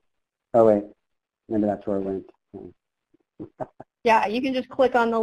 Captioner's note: chuckles